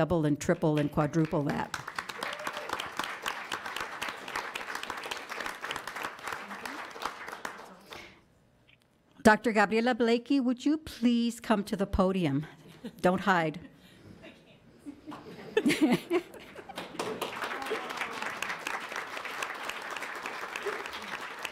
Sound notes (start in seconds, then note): 1.1 audience applauds; 14.0 audience laughs; 16.4 audience applauds